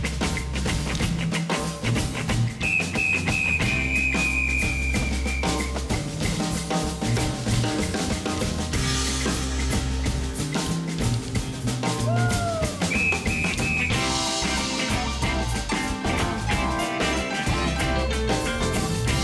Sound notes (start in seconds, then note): 2.6 whistle blowing; 6.2 lively instrumental music; 12.5 whistle blowing; 13.5 lively instrumental music